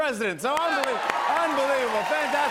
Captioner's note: cheers and applause